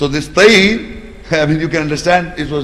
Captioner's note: Arabic